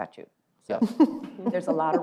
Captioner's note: laughs